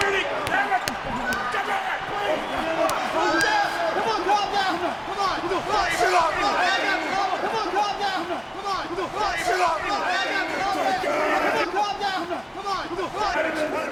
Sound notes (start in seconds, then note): 6.9 overlapping chatter